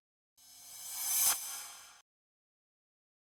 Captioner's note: swish